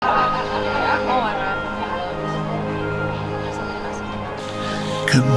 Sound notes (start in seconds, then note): 0.0 group laughing; 0.0 gentle dramatic music